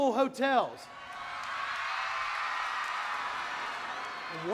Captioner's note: audience cheering